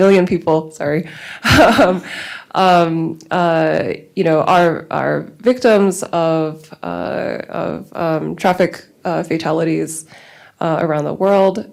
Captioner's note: laughs